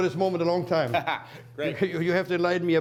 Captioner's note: laughs